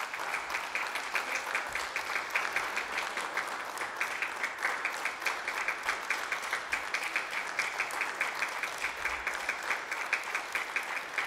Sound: applause

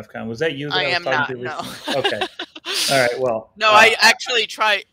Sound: laughs

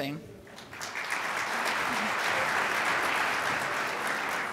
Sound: crowd applauds

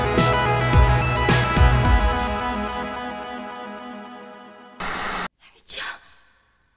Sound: movie audio

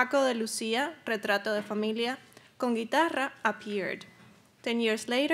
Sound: speaking Spanish

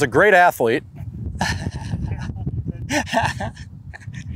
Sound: laughter

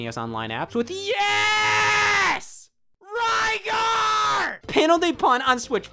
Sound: shouting

